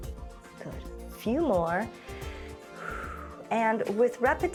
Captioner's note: inhales and exhales